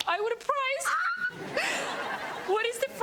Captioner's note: Robyn squeals; audience laughs